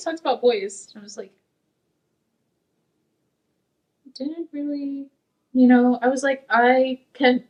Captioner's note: stammering